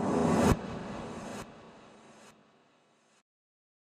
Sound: logo whooshing

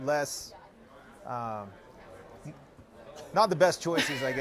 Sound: laughter

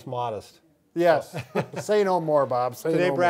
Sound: men chuckling

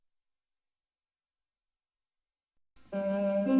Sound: silence; cheap synthesizer music playing

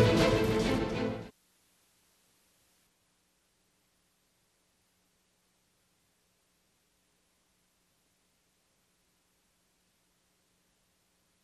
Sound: applause

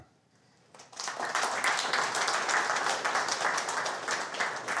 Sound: applause

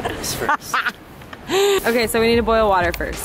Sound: laughter

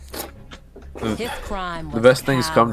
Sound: sigh

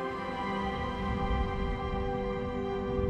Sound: thunderstorm

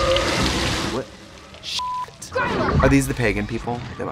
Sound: beep

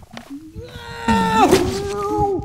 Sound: humming; yells; cat meows

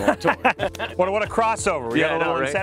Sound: all laughing

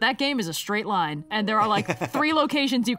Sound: laughs

